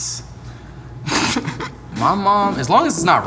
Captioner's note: laughing